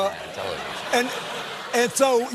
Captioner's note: laughter